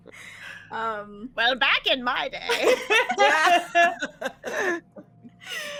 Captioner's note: all laughing